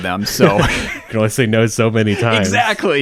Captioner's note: laughs